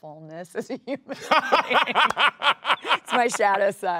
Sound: Sterling laughs

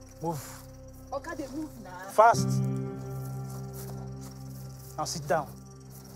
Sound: woman speaking in foreign language

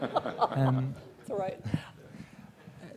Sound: laughter

